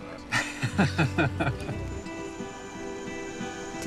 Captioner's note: chuckling